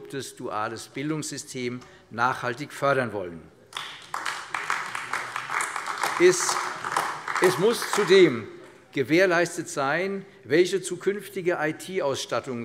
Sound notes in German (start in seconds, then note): 3.6 Beifall AfD